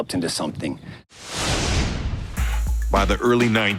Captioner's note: intense whooshing